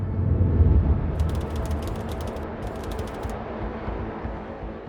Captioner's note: text clicking